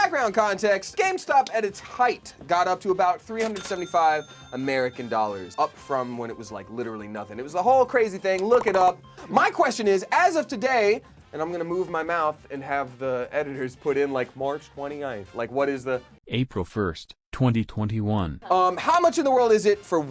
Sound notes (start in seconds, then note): 4.4 loud dinging